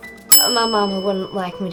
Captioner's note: bell dings